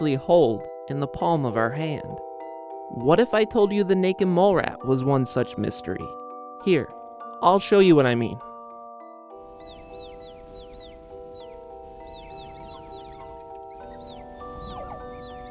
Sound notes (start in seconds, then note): 8.6 mysterious music; 11.0 squeaking